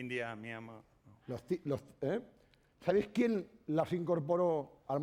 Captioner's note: speaking spanish